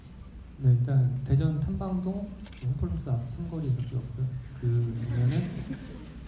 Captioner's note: speaking in foreign language; audience laughing; speaking in foreign language